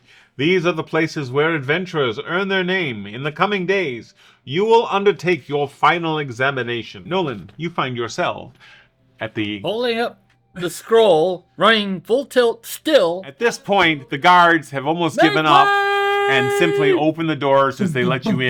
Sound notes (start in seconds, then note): 16.0 calls out in dramatic voice